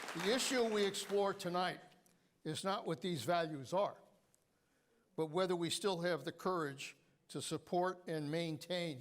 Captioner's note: applause